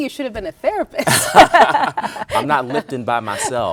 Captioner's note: both laughing